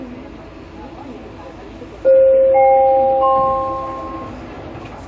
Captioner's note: doors closing Chime